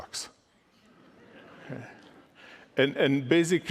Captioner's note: laughter